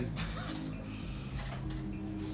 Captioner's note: laughs